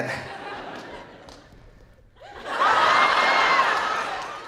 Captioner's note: audience laughing